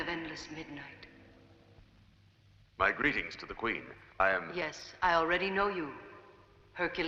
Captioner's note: none